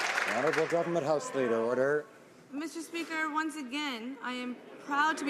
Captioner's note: some Applause